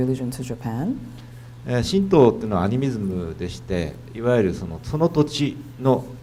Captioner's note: speaking foreign language